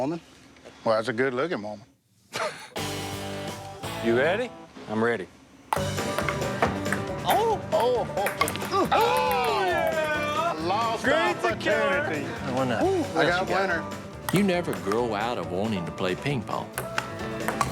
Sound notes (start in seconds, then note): 2.3 laughs; 5.8 fiddle music